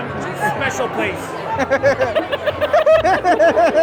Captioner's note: laughing